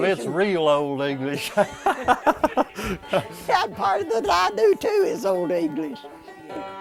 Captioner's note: laughter